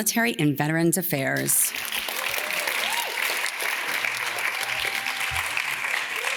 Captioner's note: audience claps and cheers